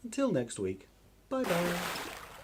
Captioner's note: big Splash!